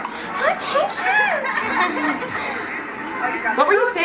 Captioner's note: baby sounds